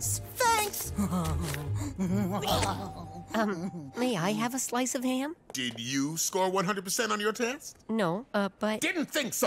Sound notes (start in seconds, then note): 0.9 laughing